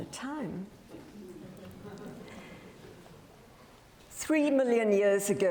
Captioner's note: audience laughs